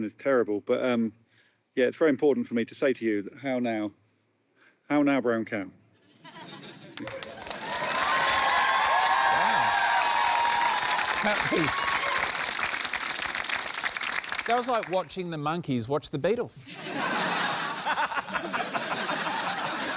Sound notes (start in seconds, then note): 6.9 cheering, applause; 16.7 laughter